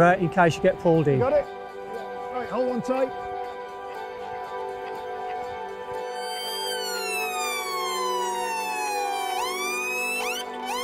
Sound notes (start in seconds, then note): 3.8 high energy music; 6.1 loud sirens